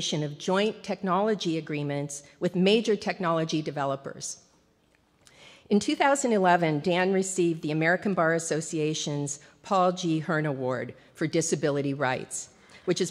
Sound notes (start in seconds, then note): none